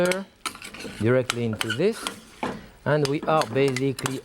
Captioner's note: spoon scraping; spoon clinking